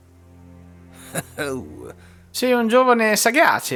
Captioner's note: eheheh